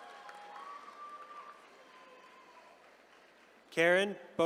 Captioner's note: attendees cheering